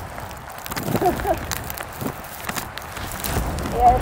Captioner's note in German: lacht